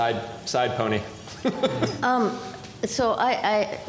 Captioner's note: laughs